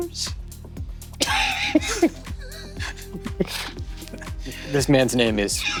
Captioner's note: players chuckling